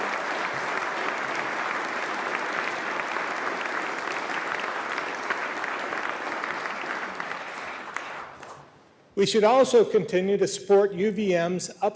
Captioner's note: applause